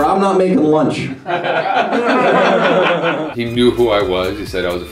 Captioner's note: laughter